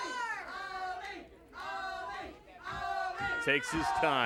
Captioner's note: audience chants